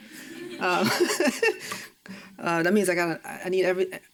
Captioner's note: chuckles